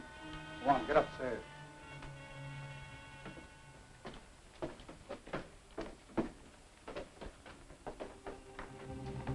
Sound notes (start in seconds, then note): 1.8 footsteps thudding; 1.8 pensive music